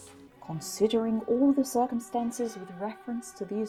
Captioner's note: posh voice with playing in the background